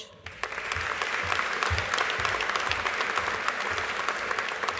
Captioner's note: audience applauding